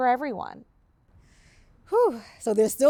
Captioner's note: sighs